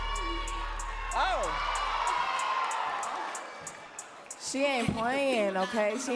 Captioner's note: audience cheering and clapping